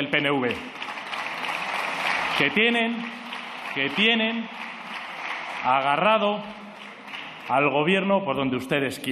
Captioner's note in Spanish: aplausos